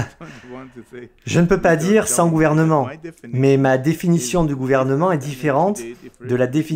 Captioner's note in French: Rire